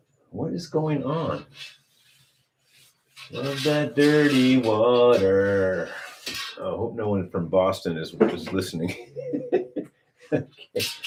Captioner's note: laughter